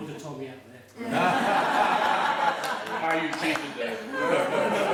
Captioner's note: laughing